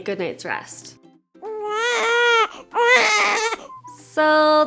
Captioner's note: baby cries